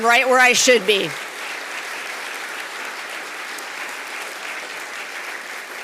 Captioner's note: audience applauding